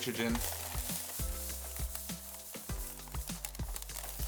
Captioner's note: crackling